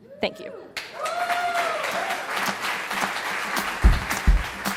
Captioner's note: wild Applause; percussive Music